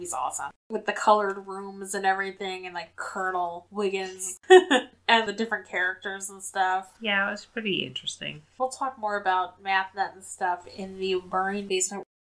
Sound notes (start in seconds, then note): 4.1 laughs